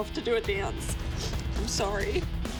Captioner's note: sniffles